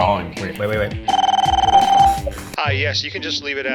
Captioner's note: phone ringing